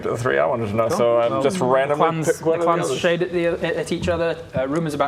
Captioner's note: none